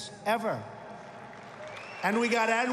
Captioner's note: applause